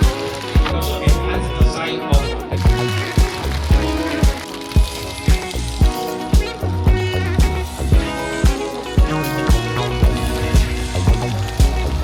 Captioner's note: crowd cheering